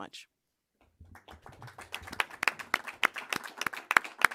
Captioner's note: applause